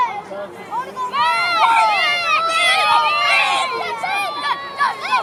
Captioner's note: shouting